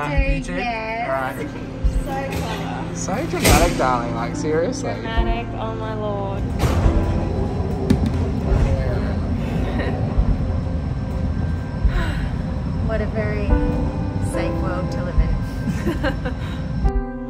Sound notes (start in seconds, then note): 11.8 sighs